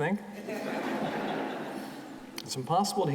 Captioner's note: audience laughing